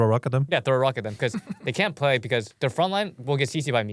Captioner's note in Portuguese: risos